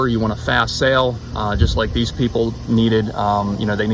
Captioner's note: none